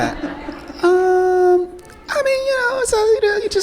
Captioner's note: high pitched voice